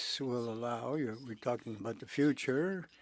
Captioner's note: speaking French